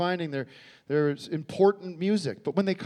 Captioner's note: none